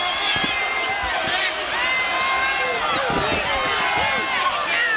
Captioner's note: crowd clamoring